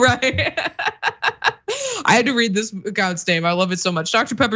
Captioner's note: laugh